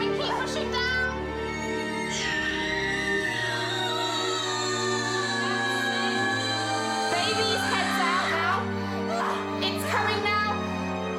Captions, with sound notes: It's coming, keep pushing down. (screaming) That's it. Baby's head's out now. It's coming now.